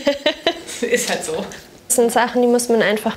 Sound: laughter

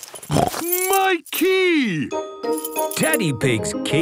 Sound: snorts

